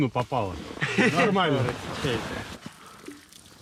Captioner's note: laughs